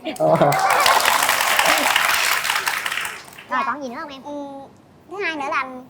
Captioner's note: applause